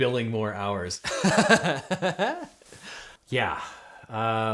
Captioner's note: host laughs